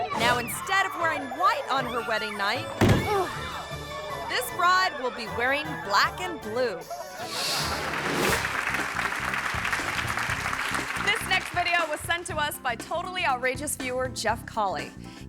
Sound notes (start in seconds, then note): 2.7 guests exclaiming; 2.8 bride thuds and groans; 7.2 air whooshes; 7.3 audience laughing; 7.6 audience clapping